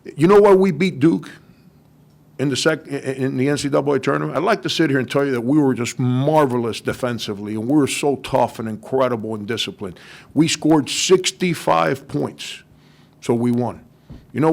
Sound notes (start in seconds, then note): none